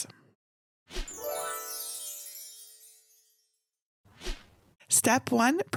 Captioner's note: chimes ringing